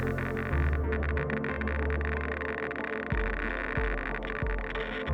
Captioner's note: rapid clicking continues